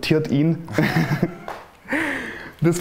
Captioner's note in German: Lachen